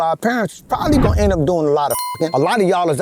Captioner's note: bell dings